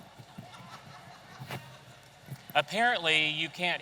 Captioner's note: attendee laughing